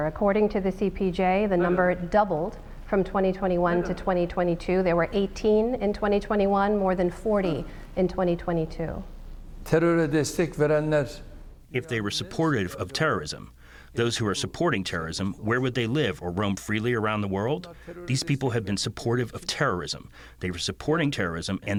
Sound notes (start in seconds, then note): 10.3 through translator